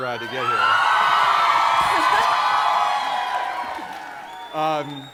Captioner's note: audience cheering